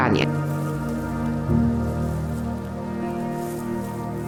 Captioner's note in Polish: kroki na trawie